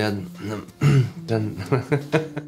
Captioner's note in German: lacht